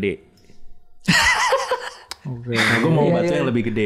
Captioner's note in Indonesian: tertawa